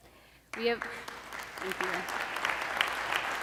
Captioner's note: applause